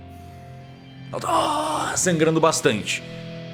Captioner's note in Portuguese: grunhidos